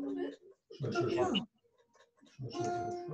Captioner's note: murmuring